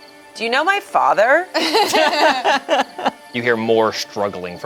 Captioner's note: group laughs